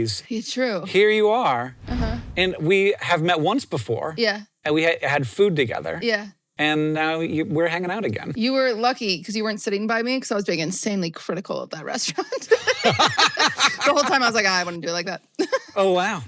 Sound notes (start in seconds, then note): 12.2 both laugh